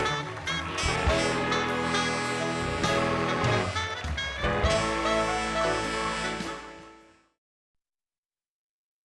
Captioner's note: cheers and applause continue